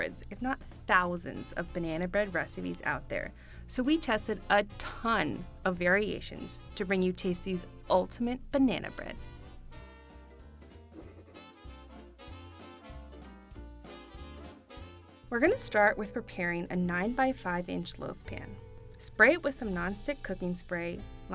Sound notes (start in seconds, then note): 11.0 chalkboard writing; 12.4 upbeat instrumental music